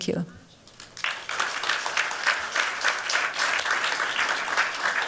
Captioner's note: applause